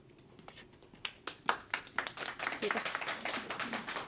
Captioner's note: applause